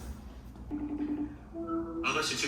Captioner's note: incoming call